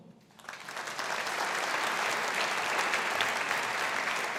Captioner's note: audience applauding